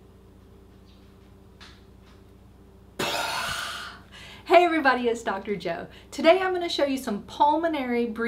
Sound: holding breath

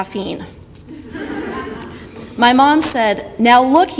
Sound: audience laughter

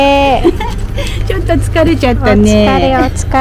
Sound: laughs

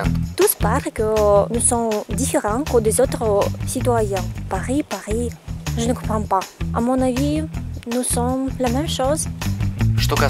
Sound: speaks French

